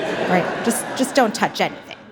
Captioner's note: audience laughs